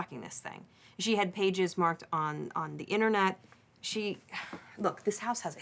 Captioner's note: sighs